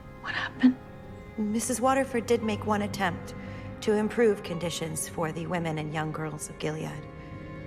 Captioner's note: voiceover